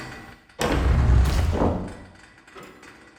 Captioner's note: door opens